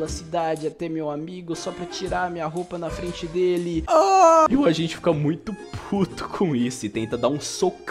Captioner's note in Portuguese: ooohh